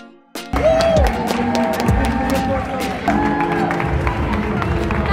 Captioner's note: applauding and cheering